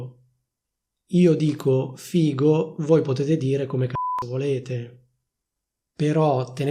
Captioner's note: beep